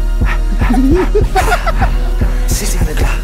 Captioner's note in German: Kichern